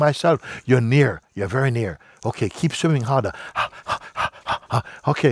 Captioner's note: keucht